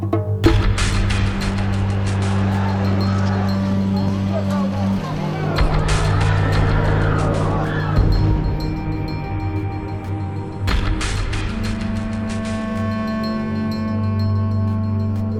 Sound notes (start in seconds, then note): 3.5 men shouting in foreign language